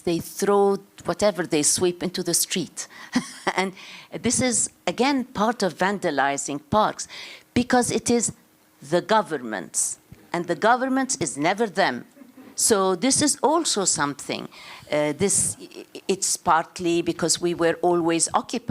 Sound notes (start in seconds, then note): 3.1 chuckles